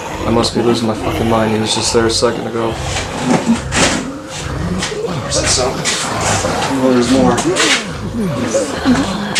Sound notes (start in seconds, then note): 3.0 groaning Continues; 8.0 groaning Continues